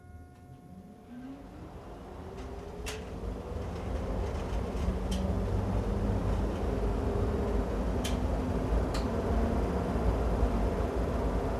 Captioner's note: engine running